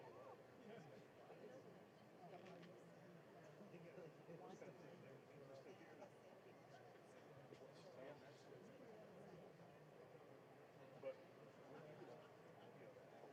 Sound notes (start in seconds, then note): none